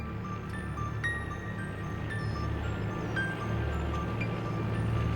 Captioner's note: truck rumbling